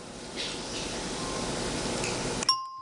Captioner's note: ringing bell